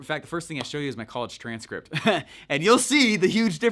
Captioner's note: chuckles